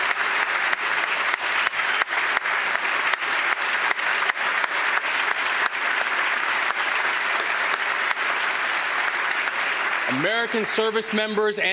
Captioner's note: applause